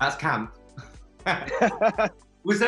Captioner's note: both laughing